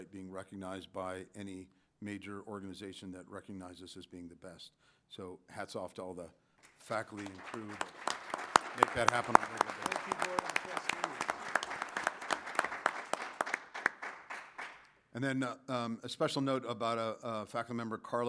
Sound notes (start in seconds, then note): 10.5 applause